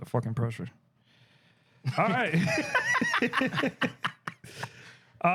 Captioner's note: laughter